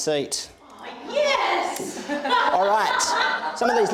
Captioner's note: woman laughs